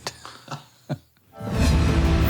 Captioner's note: laughing; intensive news music